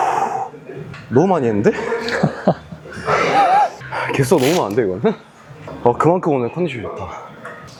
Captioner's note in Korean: 웃음